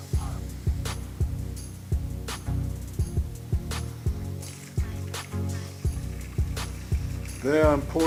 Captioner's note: sound of pouring water